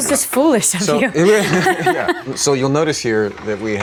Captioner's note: laughs